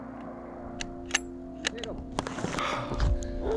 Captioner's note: gun clacking